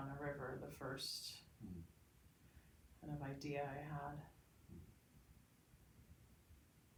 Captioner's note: exhales softly